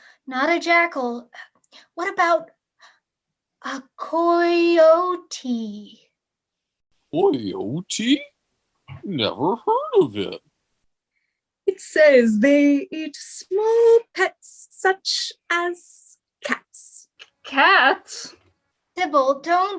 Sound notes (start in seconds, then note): 10.8 taunting